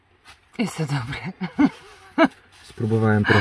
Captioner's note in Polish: śmiech